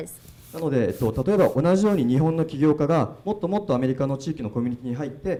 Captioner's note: speaking foreign language